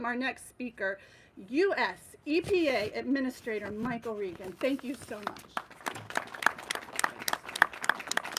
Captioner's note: applause